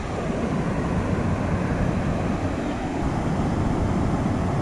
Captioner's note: waterfalls rushing